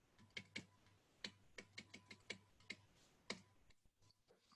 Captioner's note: stylus typing